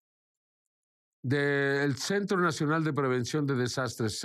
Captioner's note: foreign language